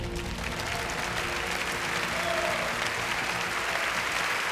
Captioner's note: audience applauds